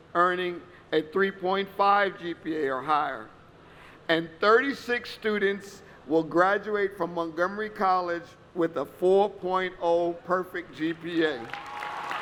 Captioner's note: applause